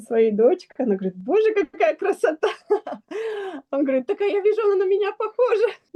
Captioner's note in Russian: смех; тяжело вздыхает